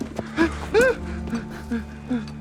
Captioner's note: whimpers